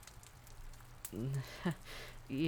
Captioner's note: chuckle